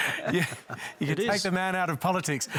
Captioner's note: laughter